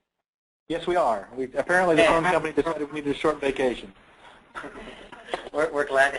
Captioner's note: laughing